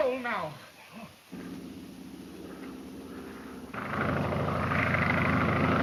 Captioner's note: airplane engine roaring